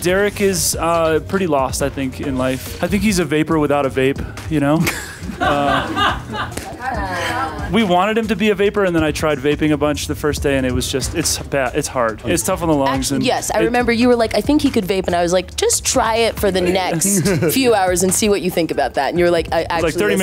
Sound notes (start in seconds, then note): 4.8 laughter